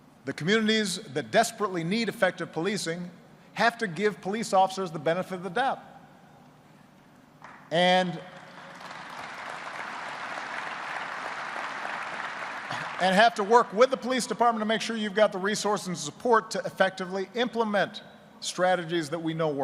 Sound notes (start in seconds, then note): 8.3 applause